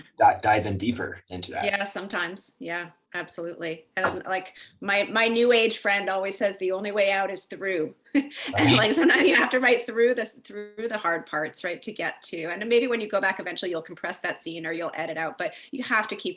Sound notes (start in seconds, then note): 8.2 chuckles